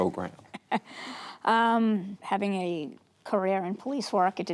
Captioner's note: laughing